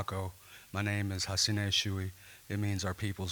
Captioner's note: speaking Caddo